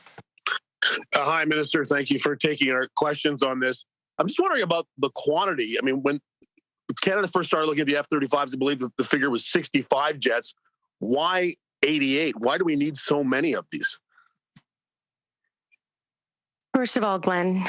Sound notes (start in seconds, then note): 1.3 speaking French